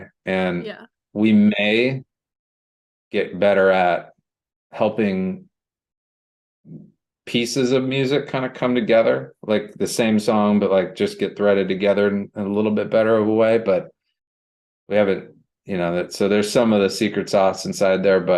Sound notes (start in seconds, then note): none